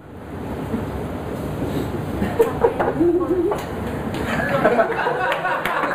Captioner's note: applause